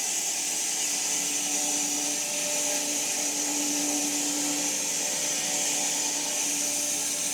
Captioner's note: woodcutting machine whirring continues